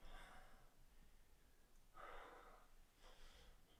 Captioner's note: Jacob panting